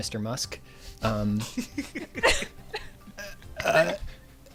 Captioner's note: laughter